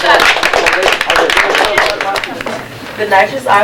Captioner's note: applause